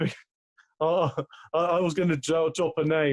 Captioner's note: laughs